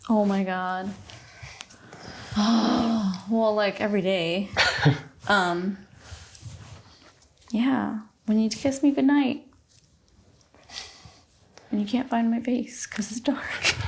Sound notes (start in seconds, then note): 4.6 chuckles; 13.7 laughing